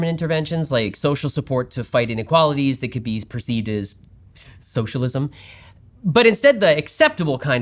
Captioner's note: gasp